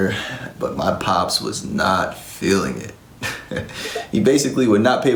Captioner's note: giggles